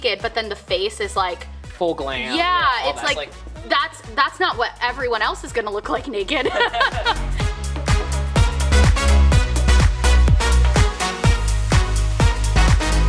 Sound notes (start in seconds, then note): 6.3 laughs; 7.8 upbeat music